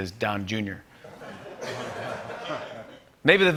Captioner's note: laughter